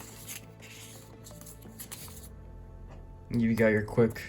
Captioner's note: paper booklet opens